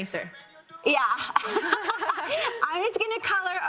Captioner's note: laughs